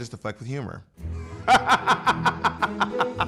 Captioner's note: laughs